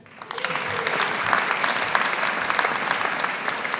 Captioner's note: audience applauding